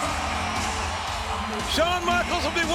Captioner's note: audience cheering